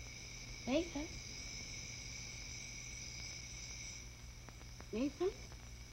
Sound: none

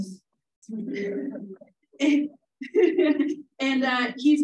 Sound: laughing

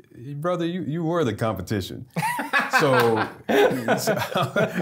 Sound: laughing

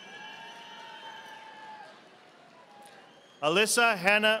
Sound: audience applauding

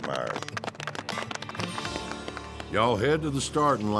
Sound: all clapping

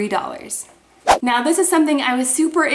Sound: whooshing

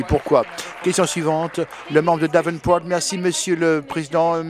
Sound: applause

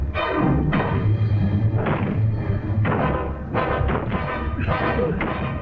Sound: knocking down the wall

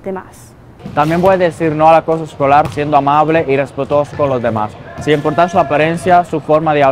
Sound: speaking in a foreign language

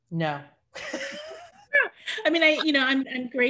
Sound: laughs

